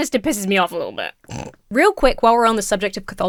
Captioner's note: snorts